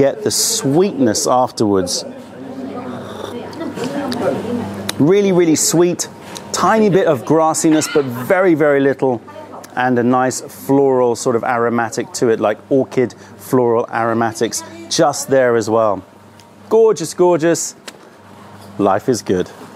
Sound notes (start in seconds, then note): 2.2 sips tea